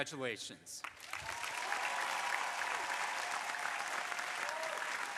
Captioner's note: crowd applauding